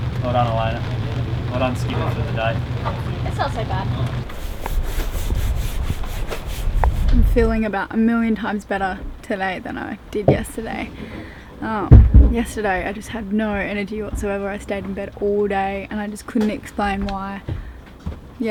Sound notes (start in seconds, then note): 4.2 brush scrapes